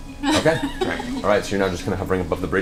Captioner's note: laughs